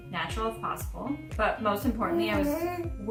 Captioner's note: coos